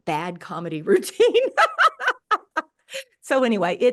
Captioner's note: laughs